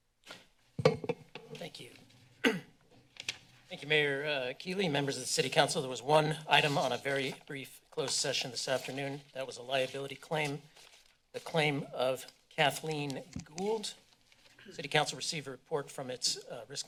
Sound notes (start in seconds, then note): 0.0 silence; 2.4 clear throat; 3.1 paper rustling